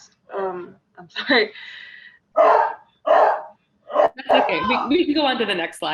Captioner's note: dog barks